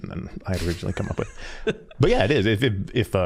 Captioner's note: laughing